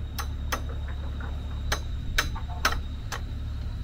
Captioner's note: hammer tapping